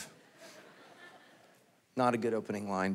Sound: congregation laughing

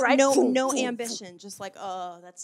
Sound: sighs

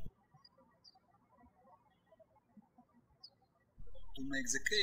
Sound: birds chirping

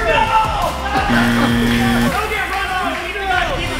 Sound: buzzer

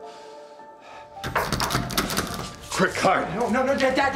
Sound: door creak

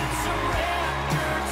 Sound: cheers and applause

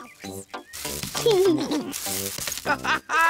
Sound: laughs; all laugh

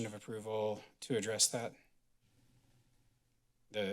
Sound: none

